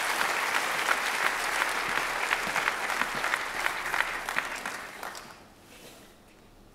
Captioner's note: applause